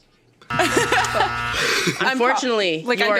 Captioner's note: buzzer sounds; laughter